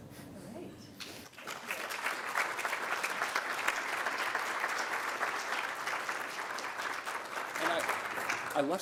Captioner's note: applause